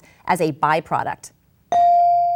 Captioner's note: bell dings